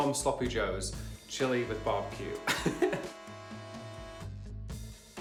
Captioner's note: laughs